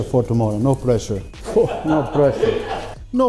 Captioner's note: laughs